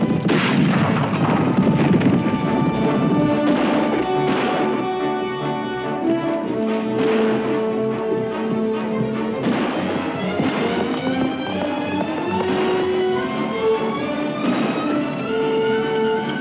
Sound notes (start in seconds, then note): 0.1 gun bangs; 2.4 exciting music; 2.4 guns bangs